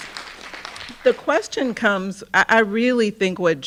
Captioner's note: audience clapping